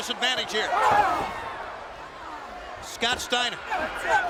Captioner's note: Steiner growling